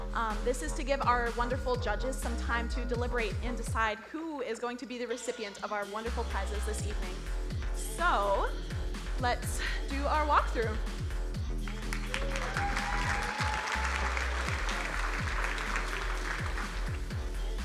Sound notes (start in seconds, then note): 11.6 crowd cheering and applauding; 14.8 upbeat music